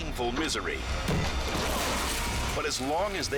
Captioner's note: body thudding; head thudding